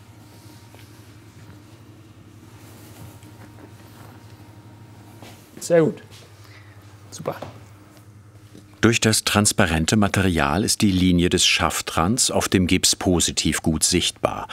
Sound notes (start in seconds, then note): none